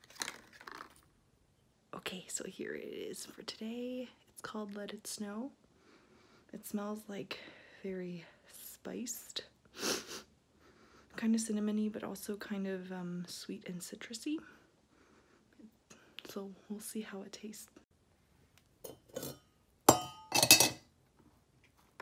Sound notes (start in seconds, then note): 9.8 sniffs